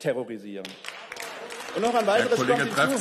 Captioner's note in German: Beifall